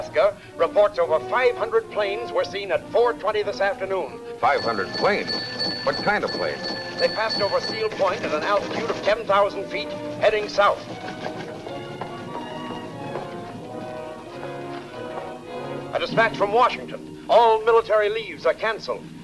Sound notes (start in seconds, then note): 4.4 bell ringing; 11.3 footsteps tapping